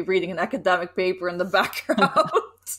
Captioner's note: laughs